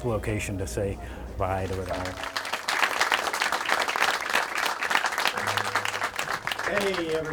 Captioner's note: applause